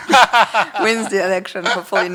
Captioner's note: laughs